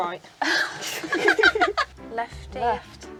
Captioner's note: laughing